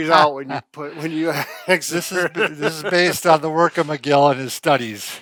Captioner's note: laughs